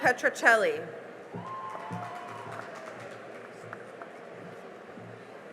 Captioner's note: cheering and applause